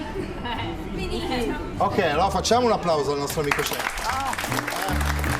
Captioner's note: speaking Italian; applause